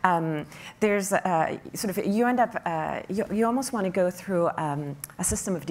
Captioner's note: none